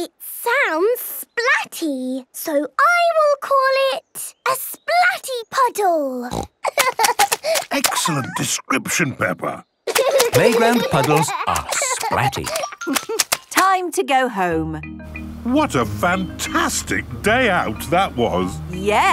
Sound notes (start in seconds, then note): 6.2 snorting; 6.6 giggling; 9.8 giggling